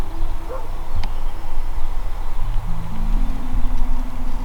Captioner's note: dog barking